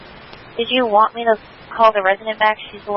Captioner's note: radio traffic